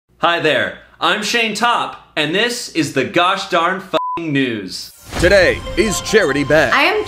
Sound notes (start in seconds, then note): 4.0 beep